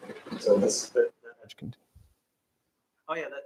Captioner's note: background chatter